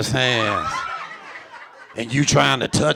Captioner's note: audience laughing